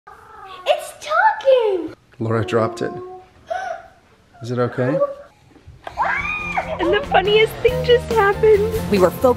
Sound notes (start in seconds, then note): 3.7 gasps; 6.1 laughter